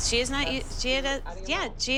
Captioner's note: stammers